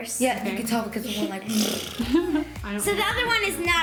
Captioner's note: imitates sound